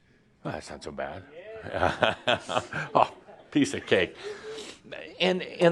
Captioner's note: Adamus chuckles